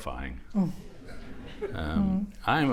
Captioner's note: laughter